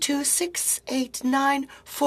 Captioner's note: speaking French